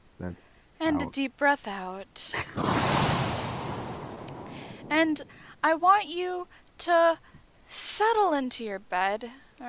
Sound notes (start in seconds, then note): 2.4 snicker; 4.4 exhaleeeeeee